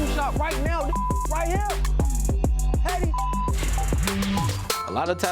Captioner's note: beeps